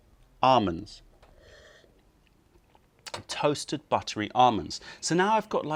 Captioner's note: sips tea